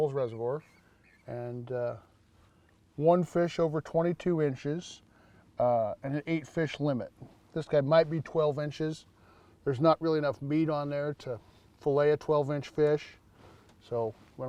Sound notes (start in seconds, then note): none